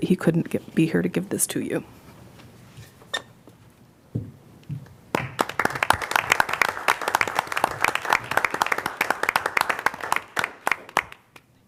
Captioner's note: applause